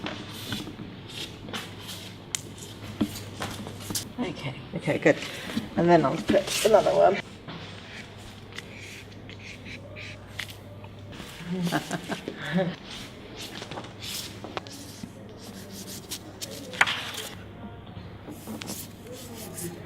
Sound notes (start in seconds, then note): 11.4 both laugh